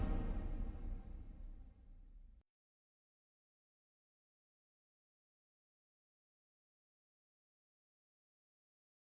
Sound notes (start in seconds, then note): 2.9 silence